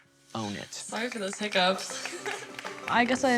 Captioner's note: applause